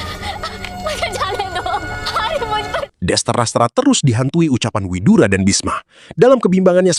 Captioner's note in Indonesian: tertawa